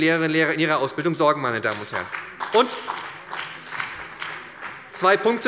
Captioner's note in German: Beifall bei der SPD